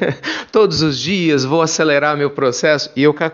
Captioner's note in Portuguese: risos